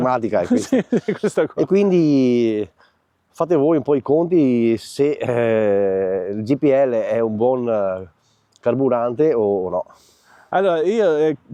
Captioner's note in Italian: risate